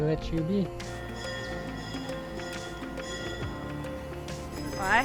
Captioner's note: bells chime